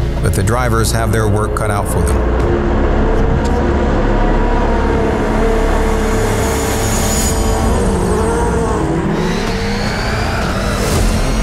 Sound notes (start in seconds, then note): 7.9 engines rev